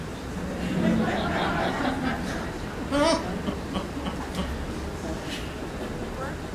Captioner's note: laughter